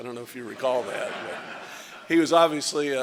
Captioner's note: laughter